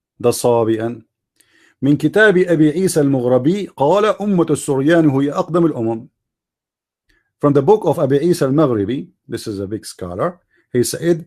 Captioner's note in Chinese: 念阿拉伯语